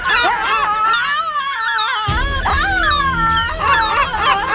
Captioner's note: gulls squawking; Ashlynn screaming; gulls squawking